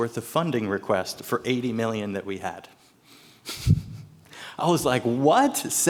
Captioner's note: laughs